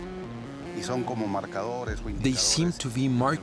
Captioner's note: speaking Spanish